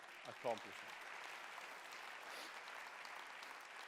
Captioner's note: applause